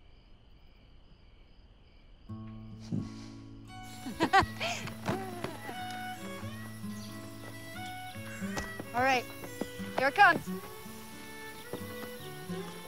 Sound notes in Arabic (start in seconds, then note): 2.6 موسيقى هادئة; 3.8 يضحك